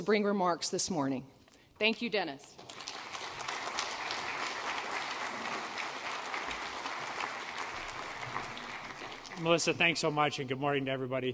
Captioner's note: applause